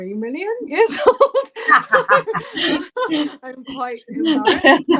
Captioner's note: laughter